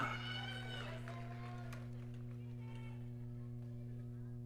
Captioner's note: audience cheering